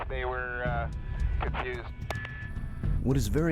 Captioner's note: voiceover